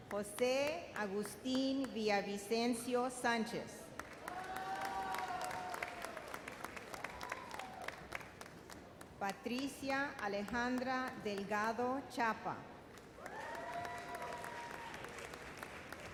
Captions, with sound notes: Jose Agustin Villavicencio Sanchez. (audience cheers) Patricia Alejandra Delgado Chapa. (audience cheers)